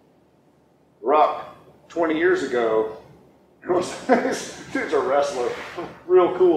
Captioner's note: laughing